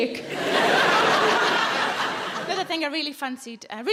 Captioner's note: audience laughing